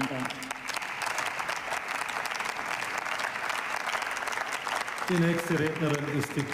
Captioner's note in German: Beifall